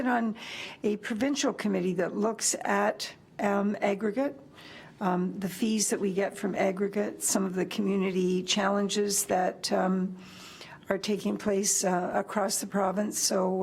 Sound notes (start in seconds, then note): none